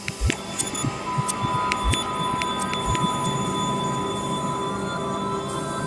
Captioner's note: medical machinery beeps echoing